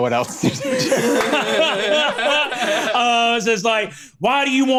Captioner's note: laughs